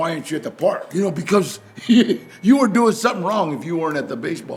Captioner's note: laughs